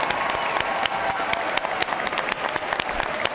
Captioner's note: cheers and applause